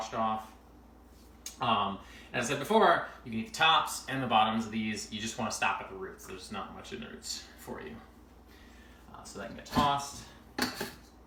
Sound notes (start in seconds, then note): 10.6 opening and closing lid